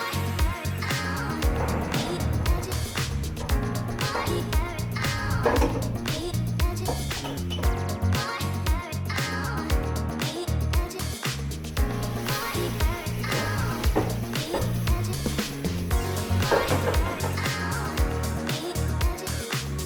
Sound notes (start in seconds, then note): 5.1 kitchen ambience